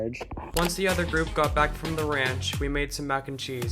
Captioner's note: voiceover